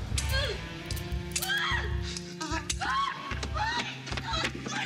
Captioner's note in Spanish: gritos